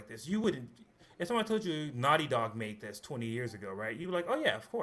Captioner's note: none